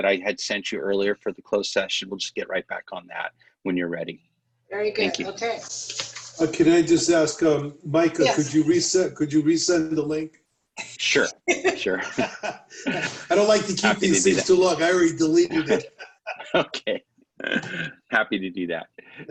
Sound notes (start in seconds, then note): 11.4 laughter